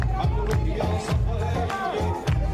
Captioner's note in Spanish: aplausos